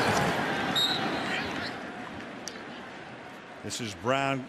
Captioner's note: whistle